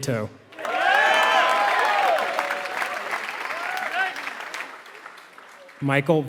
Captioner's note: applause